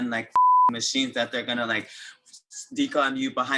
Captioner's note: beep